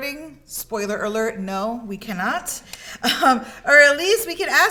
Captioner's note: chuckles